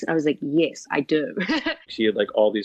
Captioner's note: laughter